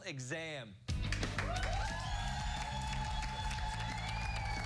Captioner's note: cheers and applause